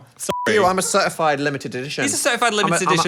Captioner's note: beep